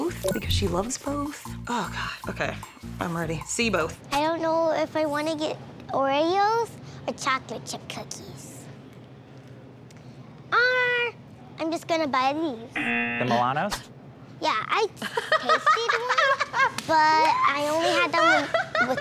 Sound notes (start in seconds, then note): 12.7 buzzer